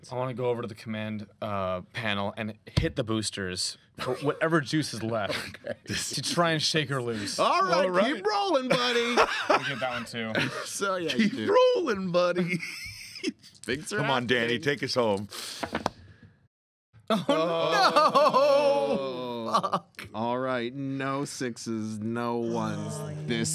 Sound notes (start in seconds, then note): 8.7 laughing drowns out speaker